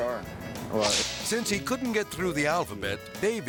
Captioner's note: air swoosh